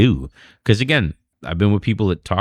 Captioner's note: uh